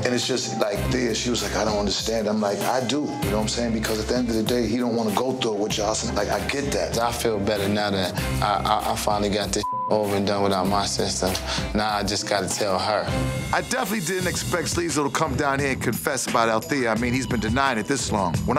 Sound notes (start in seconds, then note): 9.6 beep